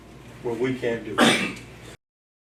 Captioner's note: cough